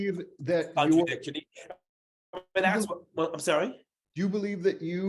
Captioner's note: audio distortion